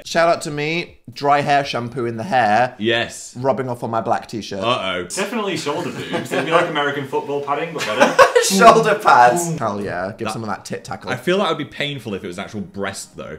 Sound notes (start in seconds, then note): 5.6 laughs